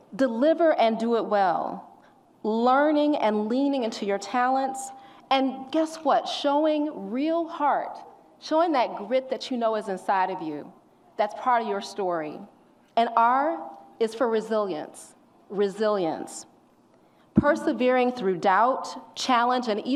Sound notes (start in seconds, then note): none